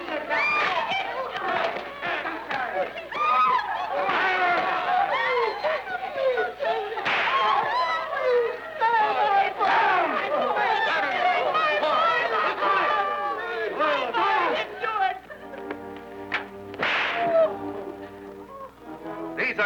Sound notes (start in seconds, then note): 0.1 guards shouting; 8.6 captives wailing; 16.7 whip cracking